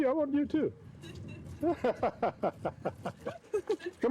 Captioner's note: laughs